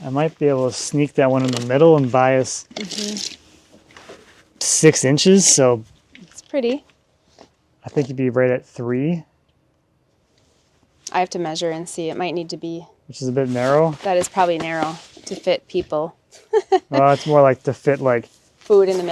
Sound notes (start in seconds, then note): 16.3 chuckles